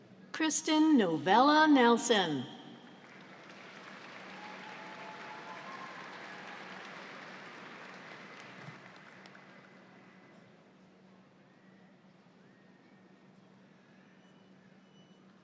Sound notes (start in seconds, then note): 3.0 audience applauds